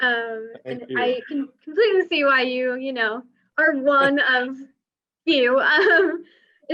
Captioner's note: laughs